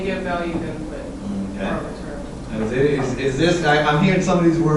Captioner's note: faint speaking by student